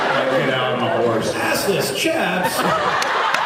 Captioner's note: laughs; laughs, cheers